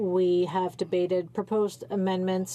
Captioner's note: speaking French